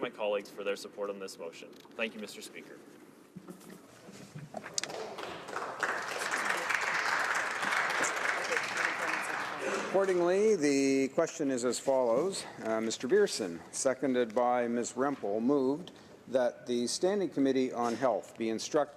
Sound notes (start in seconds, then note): 13.0 some Applause